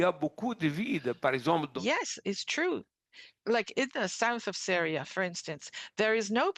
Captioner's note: speaking French